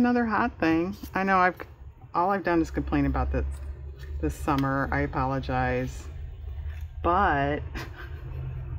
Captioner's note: laughs